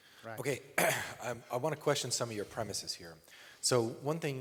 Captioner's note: clears throat